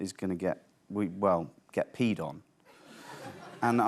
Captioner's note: light laughter